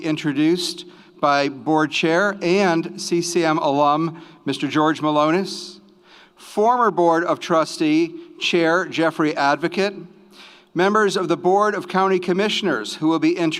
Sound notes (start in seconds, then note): none